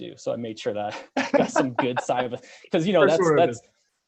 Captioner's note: both laughing; mumbles